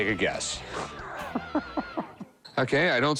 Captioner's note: laughs